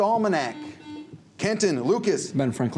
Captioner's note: buzzer